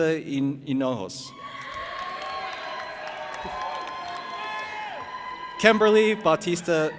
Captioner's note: audience applauding and cheering